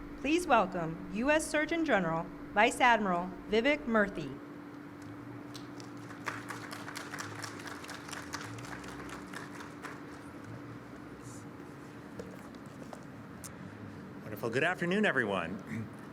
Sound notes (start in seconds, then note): 5.5 applause